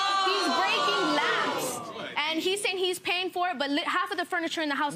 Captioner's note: audience exclaiming